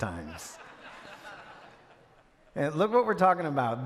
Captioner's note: audience laugh